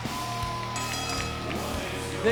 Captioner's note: bell dings